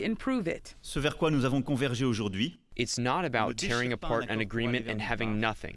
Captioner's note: through translator